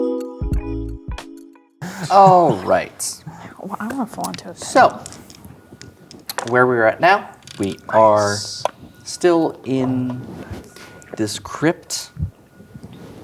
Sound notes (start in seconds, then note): 0.0 lo-fi hip hop music playing; 3.5 players chatting quietly; 4.6 dice rattling; 8.0 quietly